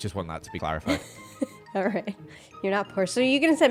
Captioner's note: laughs